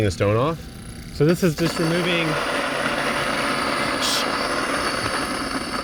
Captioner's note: mill grinding